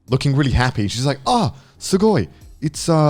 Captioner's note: speaks in foreign language; foreign language